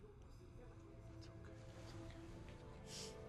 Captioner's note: Tommy whispers